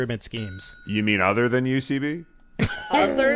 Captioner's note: ding